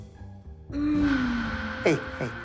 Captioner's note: soft moaning